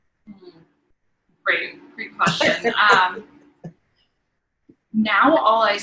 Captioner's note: chuckling